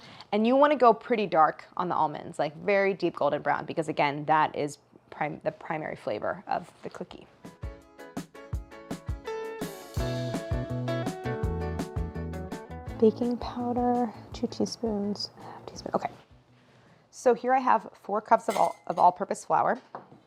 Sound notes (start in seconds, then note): 7.8 soft music; 14.9 whispering